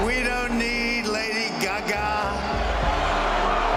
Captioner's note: crowd continues to cheer